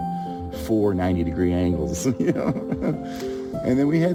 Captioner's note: laughs